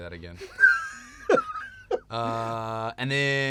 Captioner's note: laughter